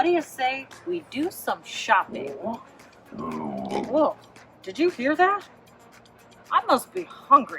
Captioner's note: stomach growling